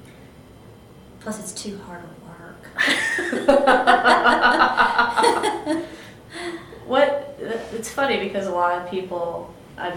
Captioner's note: laughter